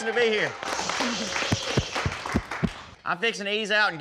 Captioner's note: crowd clapping